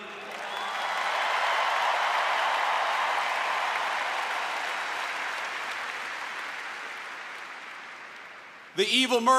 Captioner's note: applause